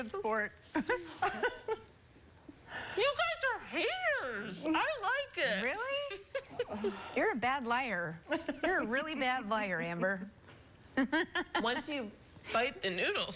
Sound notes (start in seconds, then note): 0.8 laughter; 6.1 laughter